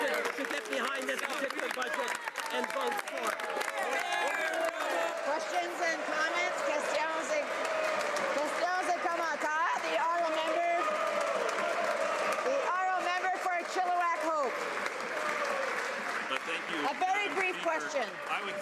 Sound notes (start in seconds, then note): 8.3 cheering and Applause